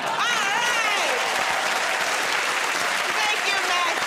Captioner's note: cheers and applause